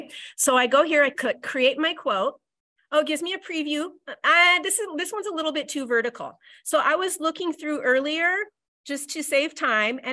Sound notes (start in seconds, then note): none